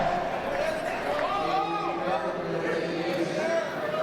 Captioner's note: crowd yelling and cheering